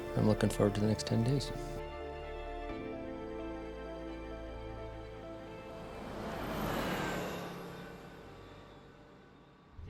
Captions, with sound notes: I'm looking forward to the next ten days. [music fades out] [vehicle zooming by]